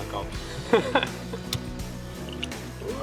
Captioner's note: laughing